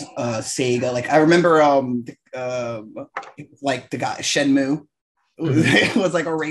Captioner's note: laughs